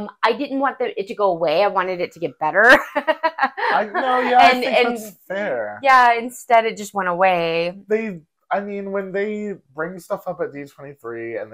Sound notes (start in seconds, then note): 2.7 laughing